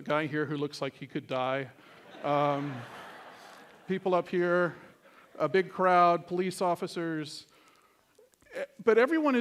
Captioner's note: laughter